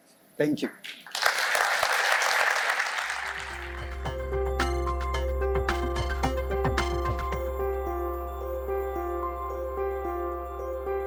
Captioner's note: applause